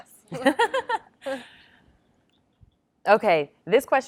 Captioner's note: laughs